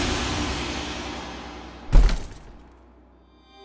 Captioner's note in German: Tür fällt ins Schloss